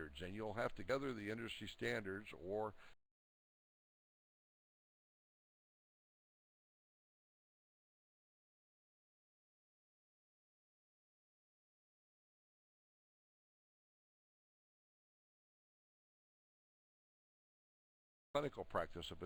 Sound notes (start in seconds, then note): 3.2 audio drops